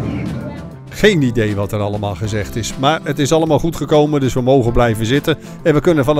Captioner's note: voiceover